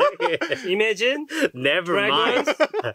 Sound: laughs

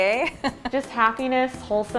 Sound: laughs

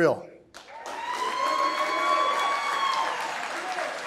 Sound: applause

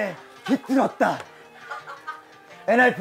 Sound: hahahaha

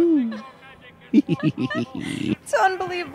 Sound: both laughing

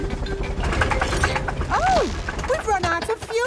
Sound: helicopter engine sputtering

